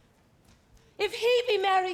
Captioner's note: none